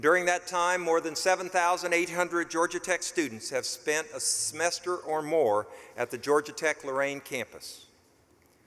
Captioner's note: none